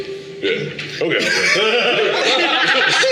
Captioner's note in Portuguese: risos